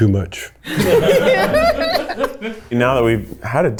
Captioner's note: group laughs